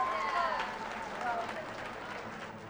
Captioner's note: cheers and applause